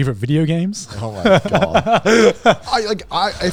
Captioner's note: laughs